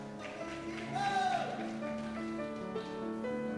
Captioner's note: cheers